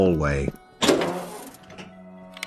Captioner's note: door Opens